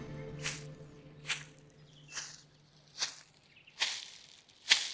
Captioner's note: medieval music plays; footsteps approach